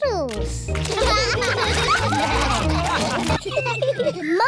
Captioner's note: all laugh